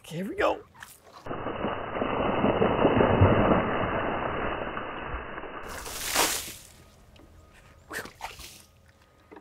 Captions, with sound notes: Okay, here we go. (water sloshes)